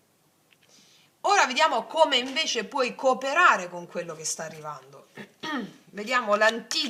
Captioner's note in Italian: schiarire la voce